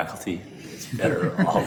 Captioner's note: all chuckling